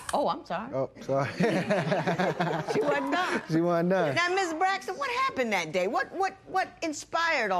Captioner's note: laughter